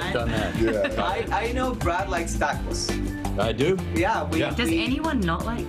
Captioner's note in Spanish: habla en ingés